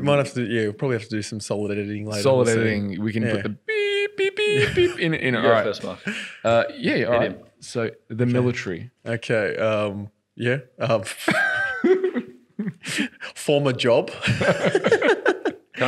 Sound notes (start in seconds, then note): 4.0 beeping; 11.1 laughs; 14.2 laughing